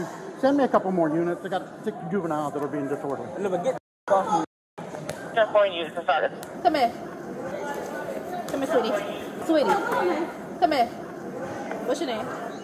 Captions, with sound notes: Send me a couple more units I got six juveniles that are being disordered Get the -- off me -- (Radio chatter) Come here Come here sweetie Sweetie Come here What's your name